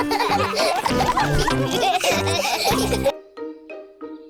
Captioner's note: all laughing